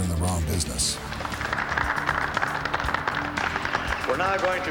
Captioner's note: crowd applauding